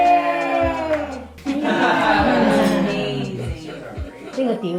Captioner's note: laughs